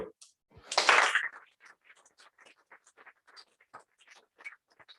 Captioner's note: applause